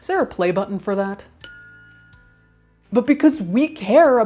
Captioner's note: something pings